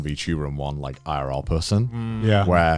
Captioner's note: affirmative murmuring